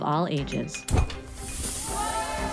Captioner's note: air whooshing; object clinking; students cheering; bright music